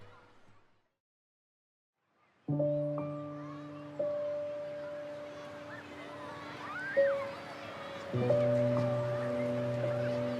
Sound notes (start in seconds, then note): 2.5 gentle music; 2.7 children murmuring